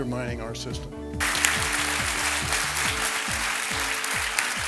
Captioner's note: audience clapping